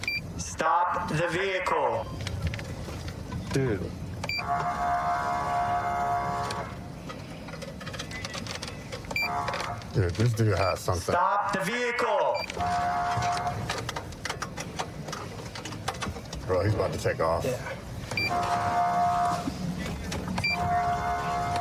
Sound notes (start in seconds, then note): 4.3 horn blaring; 12.5 horn blaring; 18.2 horn blaring